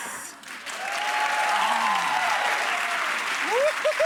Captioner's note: audience cheering and clapping